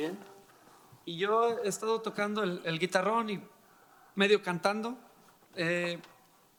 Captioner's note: speaking in foreign language